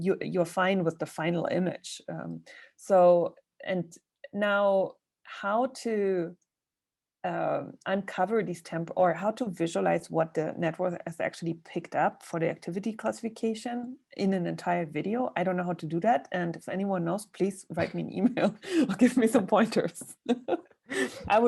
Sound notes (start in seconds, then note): 18.5 laughs